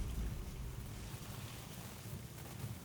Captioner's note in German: Leise, raschelnde Geräusche